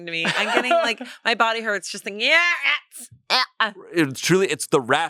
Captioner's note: gags